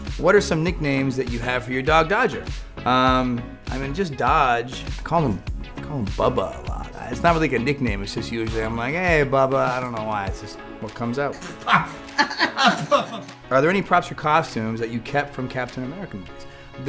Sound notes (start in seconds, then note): 11.4 laughing; 11.5 sputters